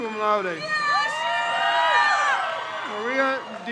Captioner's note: crowd cheers